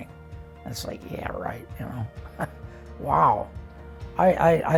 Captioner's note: chuckles